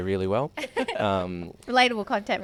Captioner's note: hosts laugh